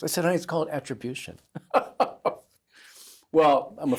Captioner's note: laughter